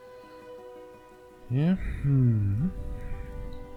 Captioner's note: audible musing